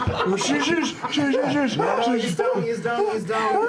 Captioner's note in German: schsch